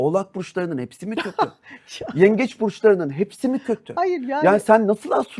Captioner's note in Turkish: kahkaha